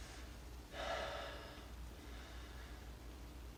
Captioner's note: breathes deeply, exhales